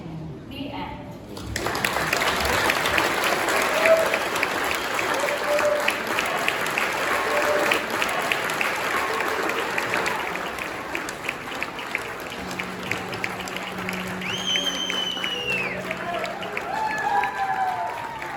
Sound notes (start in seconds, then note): 2.0 applause